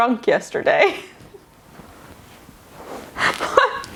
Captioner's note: laughing